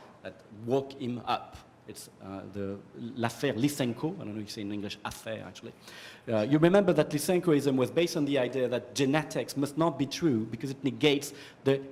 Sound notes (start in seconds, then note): 3.1 french; 6.0 french